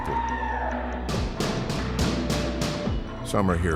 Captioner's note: banging